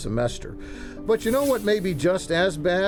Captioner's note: air whooshes